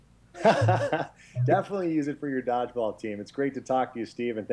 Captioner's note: laughs